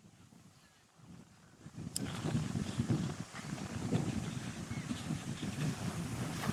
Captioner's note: wind